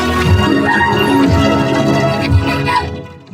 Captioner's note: laughs nervously; screams; panting